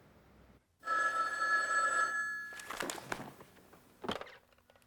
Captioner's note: phone ringing